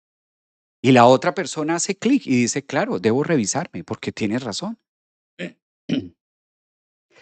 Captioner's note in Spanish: carraspeo